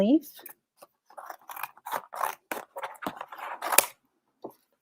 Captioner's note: scissors snipping